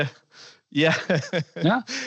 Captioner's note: laughter